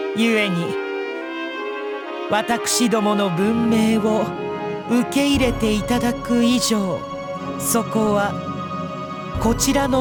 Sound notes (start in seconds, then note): none